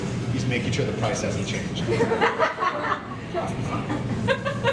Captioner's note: audience laughter